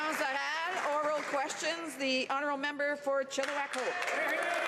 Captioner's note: some Applause